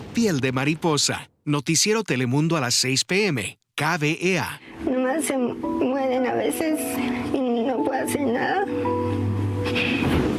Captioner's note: speaking spanish